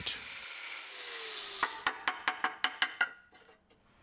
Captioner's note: light hammering